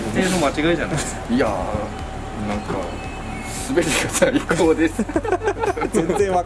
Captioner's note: laughs